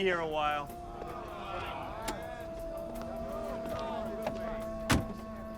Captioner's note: people on the bus groaning